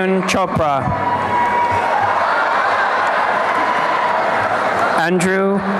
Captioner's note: applause and cheering